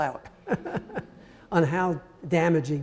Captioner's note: audience laughing